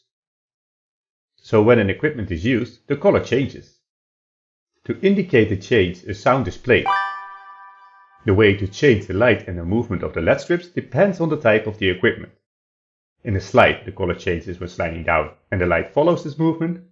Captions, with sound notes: So when an equipment is used the color changes. To indicate the change a sound is played [COIN COLLECTING *DING*] The way to change the light and the movement of the LED strips depends on the type of the equipment. In a slide the color changes when sliding down and the light follows this movement,